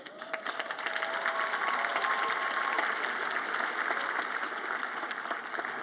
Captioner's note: audience applauds and cheers